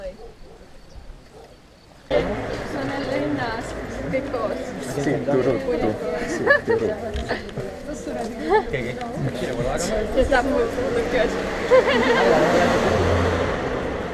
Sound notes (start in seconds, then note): 5.6 guys speaking some estonian